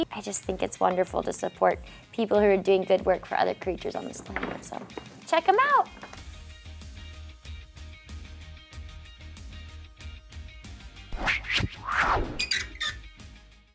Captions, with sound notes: I just think it's wonderful to support people who are doing good work for other creatures on this planet, so, check 'em out! (whooshing) (sign squeaking)